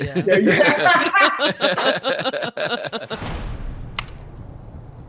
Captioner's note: all laughing loudly; tense music